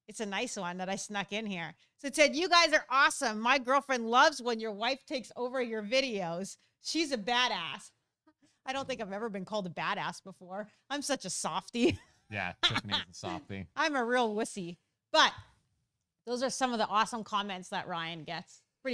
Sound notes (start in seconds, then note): 12.3 laughs